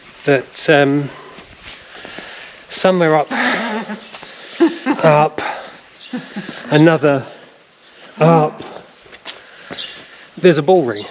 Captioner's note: laughs